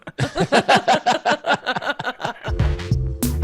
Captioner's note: everyone laughing; chill electronic music